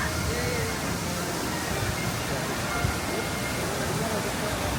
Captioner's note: fountain water rushing